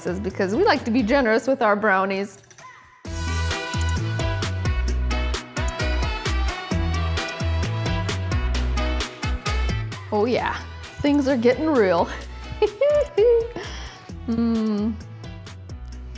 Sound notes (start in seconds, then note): 12.6 laughs